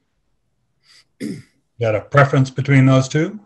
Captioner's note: clears throat